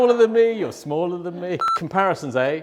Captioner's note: beep